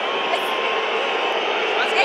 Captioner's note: Pfeifkonzert